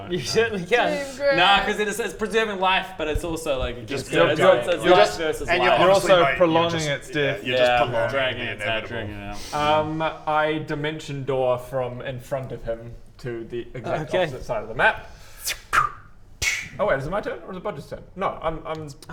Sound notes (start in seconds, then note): 15.2 tssch; 15.4 tsh-kwch